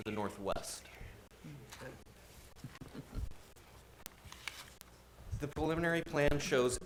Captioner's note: board murmuring agreement